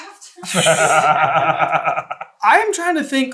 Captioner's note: giggles